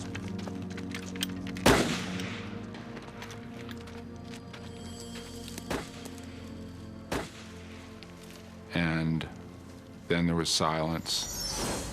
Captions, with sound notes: (gun shot) (gun fire) And then there was silence.